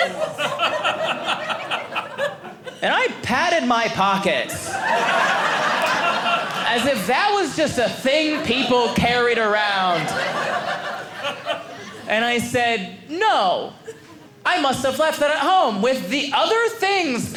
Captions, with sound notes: (audience laughing) And I patted my pockets, as if that was just a thing people carried around. (audience laughing) And I said, no, I must have left that at home with the other things